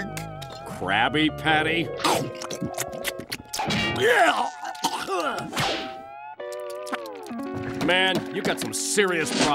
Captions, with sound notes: Krabby Patty? [retching] Man, you've got some serious problems.